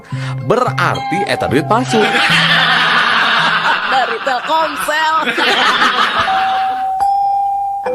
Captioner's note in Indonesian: tertawa